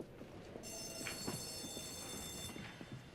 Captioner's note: school Bell Rings